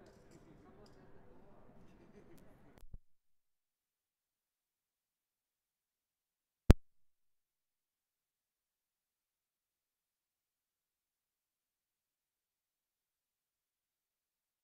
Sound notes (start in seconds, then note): none